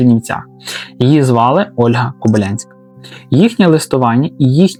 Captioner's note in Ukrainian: сопіння